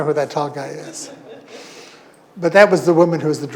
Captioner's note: audience laughing